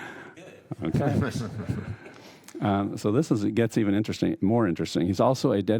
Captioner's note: laughter